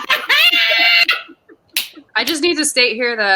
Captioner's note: cackles and claps